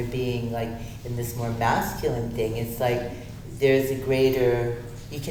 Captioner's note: none